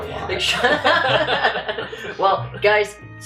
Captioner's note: laughter